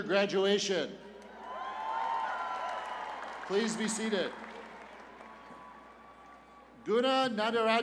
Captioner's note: cheers and applause